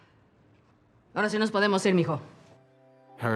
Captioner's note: in Spanish